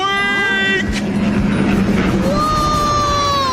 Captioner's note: boat zooming